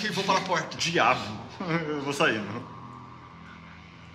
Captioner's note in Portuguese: risada